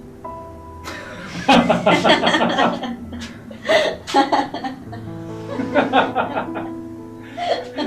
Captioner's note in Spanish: risas